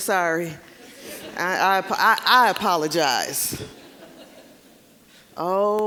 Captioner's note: audience laughing